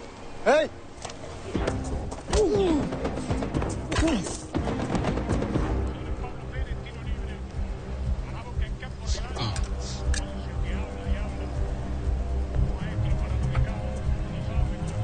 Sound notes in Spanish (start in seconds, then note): 2.3 Quejido